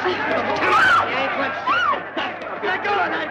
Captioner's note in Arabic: صرخة سيدة